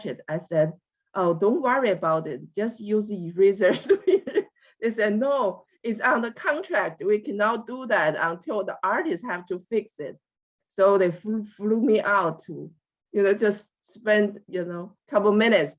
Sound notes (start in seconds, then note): 4.2 laughs